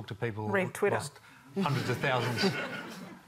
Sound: laughter

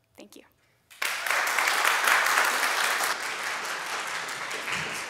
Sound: applause

